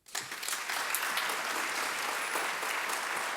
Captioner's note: applause